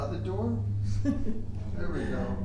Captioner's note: laughing